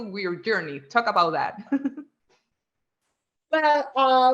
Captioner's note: chuckles